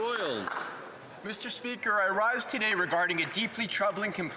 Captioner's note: speaking Alternate Language